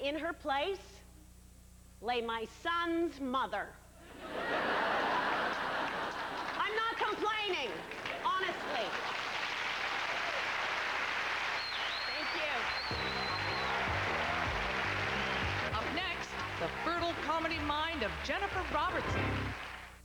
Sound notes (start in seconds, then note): 4.0 laughter; 5.7 sparse applause; 9.7 thunderous applause and whistling; 12.8 upbeat background music